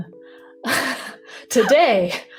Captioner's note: chuckles